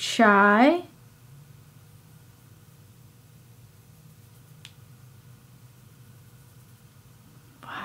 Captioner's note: silence